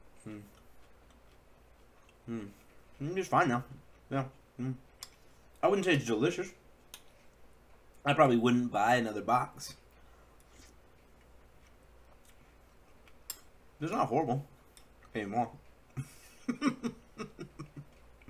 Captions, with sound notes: Um..um.. it's just fine now. I'm wouldn't say it's delicious. I probably wouldn't buy another box. It's not horrible...anymore. (laugh)